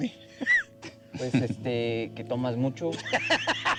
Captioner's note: speaking spanish; laughs